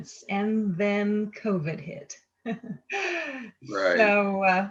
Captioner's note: laughs